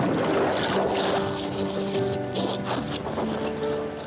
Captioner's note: waves crashing; water gurgling